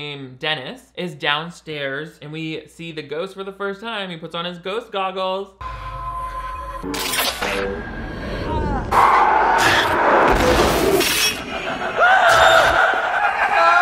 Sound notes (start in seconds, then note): 6.7 Dennis yelling; 6.7 electric current flashing; 8.8 electric current screeching; 10.2 electric current exploding; 11.9 ghost yelling; 13.5 Dennis yelling